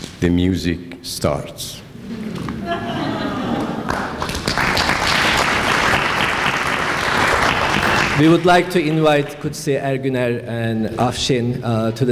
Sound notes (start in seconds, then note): 2.1 laughter; 3.8 clapping